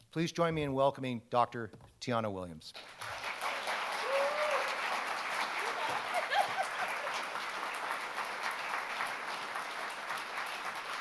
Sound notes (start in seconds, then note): 2.8 audience applauding; 3.4 audience cheers; 5.6 laughs